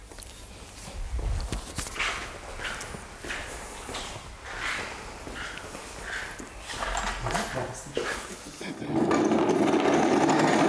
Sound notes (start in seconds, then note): 1.9 distant footsteps; 6.8 soft conversation